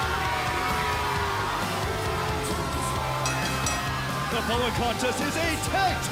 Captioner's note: bell ringing